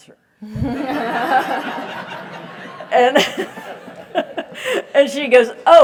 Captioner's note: laugh